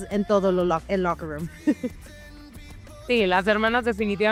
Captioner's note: laugh